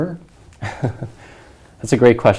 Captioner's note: chuckles